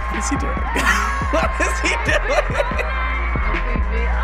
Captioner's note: laughs